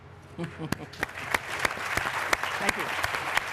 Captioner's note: applause